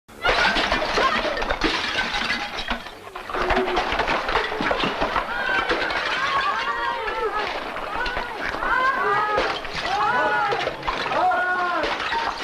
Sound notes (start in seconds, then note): 0.2 shouts, ambience noise, shards breaking and steps